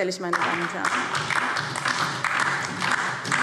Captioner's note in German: Beifall DIE LINKE und vereinzelt SPD